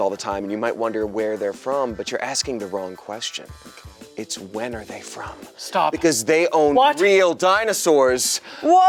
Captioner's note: none